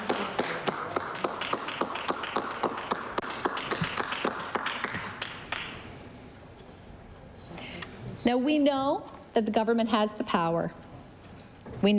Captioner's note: applause